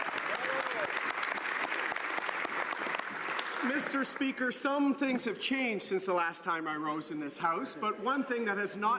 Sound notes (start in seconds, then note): 0.0 some Applause